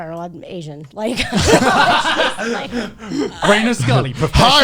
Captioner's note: all laughing